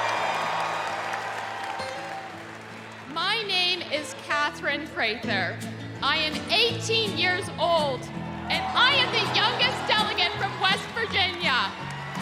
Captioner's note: cheers and applause